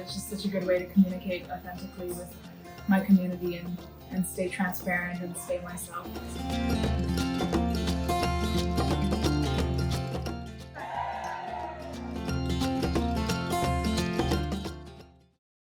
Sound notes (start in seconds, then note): 10.7 cheering